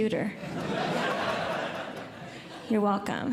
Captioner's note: audience Laughing